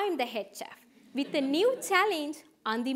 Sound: audience chuckling

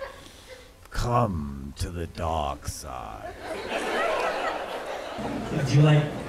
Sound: laughter

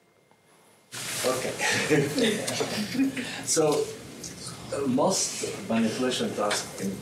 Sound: chuckles

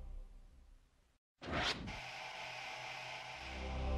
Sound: more sounds of TV powering up, static, and deep-voice angelic singing

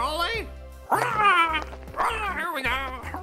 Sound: squawking

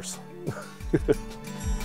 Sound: laugh

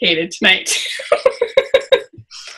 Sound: laughs

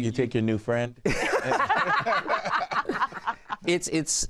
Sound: laughter

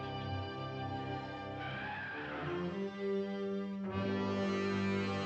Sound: sound of elephant trumpeting

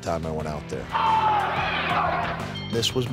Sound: crowd shouting

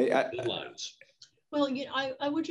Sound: Ken mumbles

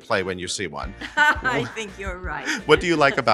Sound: laughs

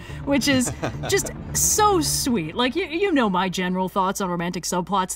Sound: laughs

